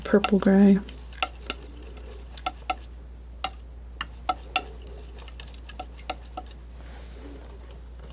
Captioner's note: tapping